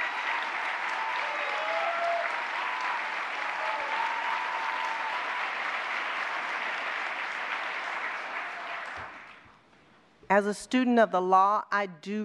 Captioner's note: applause